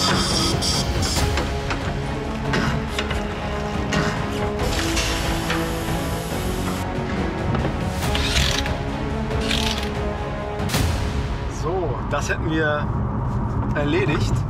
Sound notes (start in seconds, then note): 4.5 compressed air hisses; 9.4 the cordless screwdriver rattles